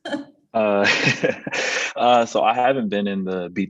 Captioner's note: laugh